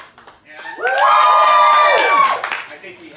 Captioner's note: audience screams